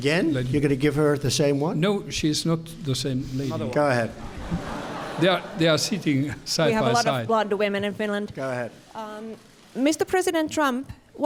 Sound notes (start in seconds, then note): 4.2 laughter